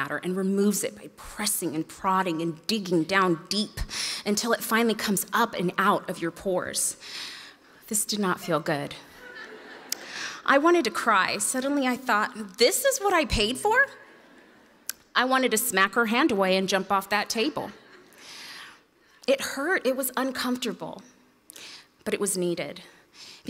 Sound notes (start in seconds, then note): 9.2 audience laughs